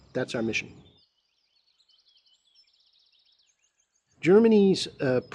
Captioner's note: birds chirping